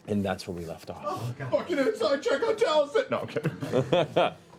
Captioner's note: shouting